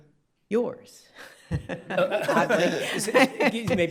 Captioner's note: laughs